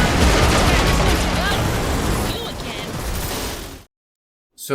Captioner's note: gunshots